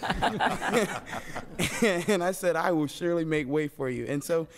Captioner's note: laughter